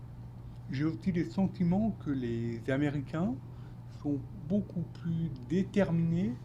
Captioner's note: speaking French